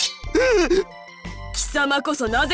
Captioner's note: panicked gasp